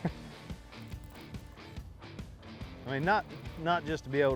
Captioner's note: laughter